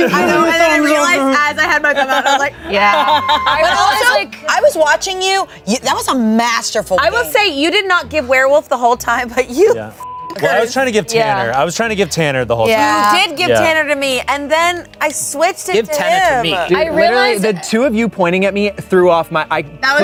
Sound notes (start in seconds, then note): 10.0 beep